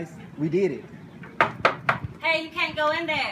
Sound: knocking

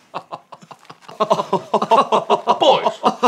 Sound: futher, more performative, laughter

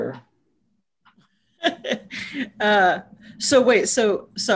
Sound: laughs

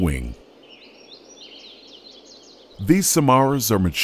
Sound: birds chirping

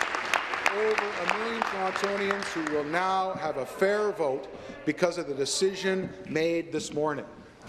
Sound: applause

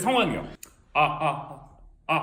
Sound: echoes

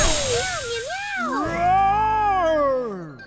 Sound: roaring

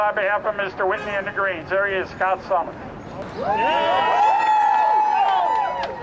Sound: crowd cheers

